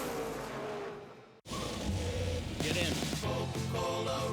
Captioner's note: engines roaring